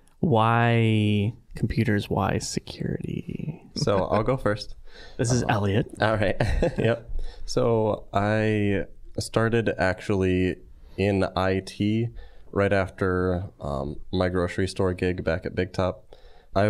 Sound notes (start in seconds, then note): 5.2 chuckling